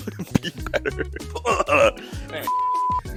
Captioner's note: grunts in pain